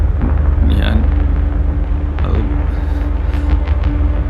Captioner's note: Kichu mumbles